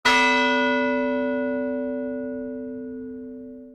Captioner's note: bell chimes